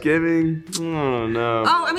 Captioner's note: smacks lips